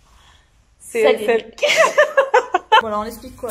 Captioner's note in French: rires